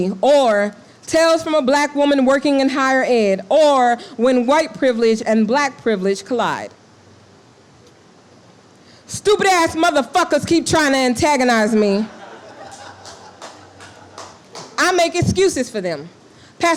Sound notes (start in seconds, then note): 11.7 laughing and clapping